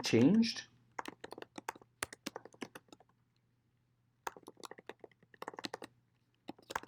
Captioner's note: clicking